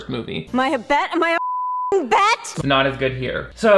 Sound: beep

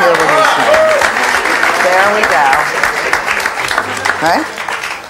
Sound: audience claps

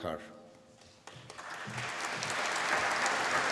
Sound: applause

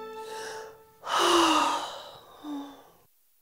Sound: sigh

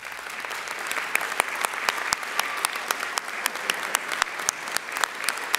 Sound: audience applauding

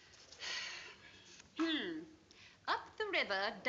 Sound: clears throat

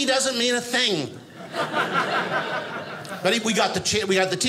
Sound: audience laughing

